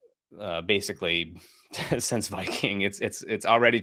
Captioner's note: chuckles